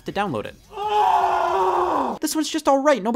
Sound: groaning in despair

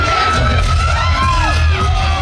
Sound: crowd cheering

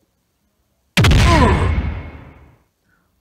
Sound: tail whack

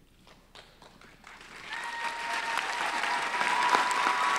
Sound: applause

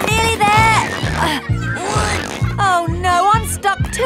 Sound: grunting

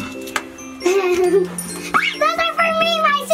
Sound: Fairy chuckles

